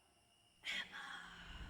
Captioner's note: ghostly voice